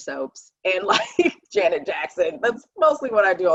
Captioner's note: laughing